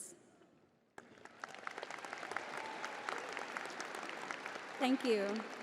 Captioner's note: crowd applauding